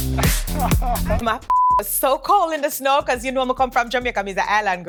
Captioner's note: beep